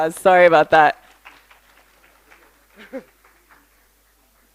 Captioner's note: applause